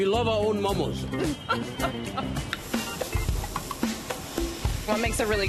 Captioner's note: laughs